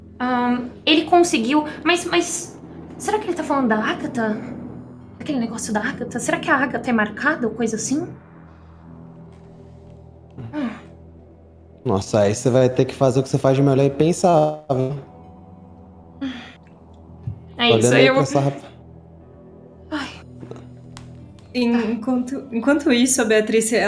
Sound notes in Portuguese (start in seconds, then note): 19.9 suspira